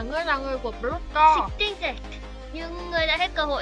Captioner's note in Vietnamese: Tiếng Pháp